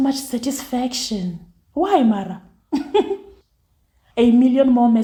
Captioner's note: laughs